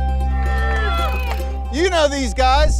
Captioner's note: light music; group cheering softly